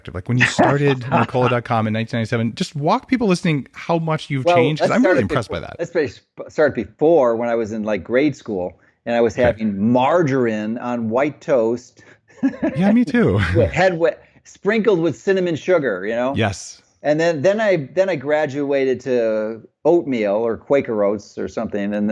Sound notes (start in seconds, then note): 12.4 chuckles